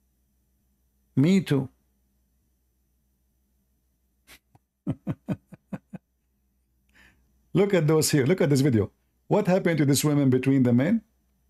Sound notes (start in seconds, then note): 4.8 Ketawa